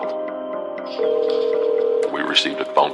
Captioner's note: phone ringing